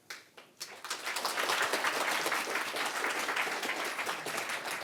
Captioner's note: applause